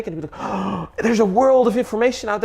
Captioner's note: gasp